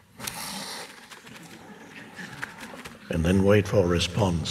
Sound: audience laughing

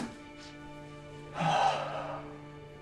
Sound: sighs

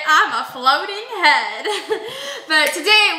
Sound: laughs

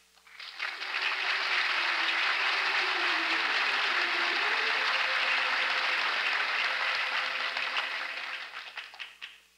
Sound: applause

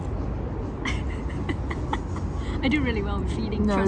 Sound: laughs

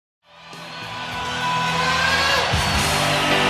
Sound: audience cheering; lively rock music

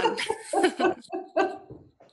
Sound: laughter

